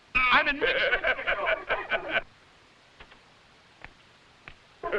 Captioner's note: all laughing